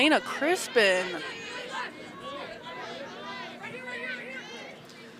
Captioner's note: shouting